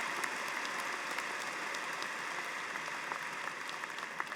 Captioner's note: applause